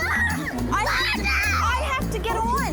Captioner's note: screaming